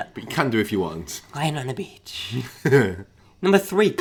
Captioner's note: laughs